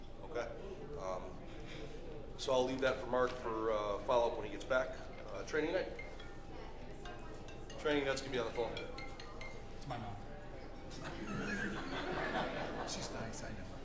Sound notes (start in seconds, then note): 9.5 ringing; 11.0 laughter